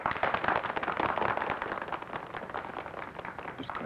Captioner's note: applause